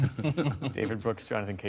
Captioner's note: laughter